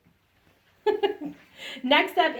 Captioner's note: laughs